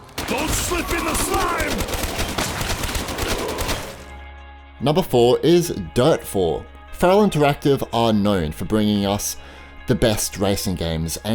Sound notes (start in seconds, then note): 2.3 gun banging